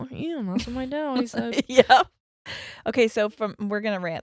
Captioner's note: laughs